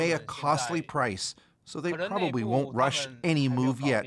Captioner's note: speaking alternate language